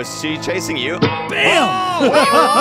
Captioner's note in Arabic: قعقعة معدنية